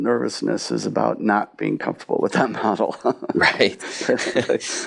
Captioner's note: laughs